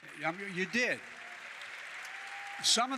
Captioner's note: applause